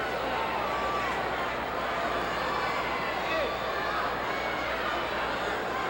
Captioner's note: audience chattering